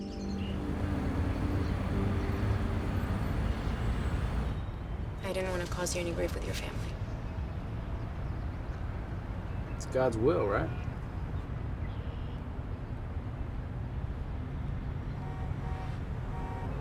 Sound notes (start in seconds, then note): 16.2 car honking